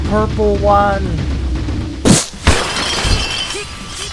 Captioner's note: battle noises; fall and impact noise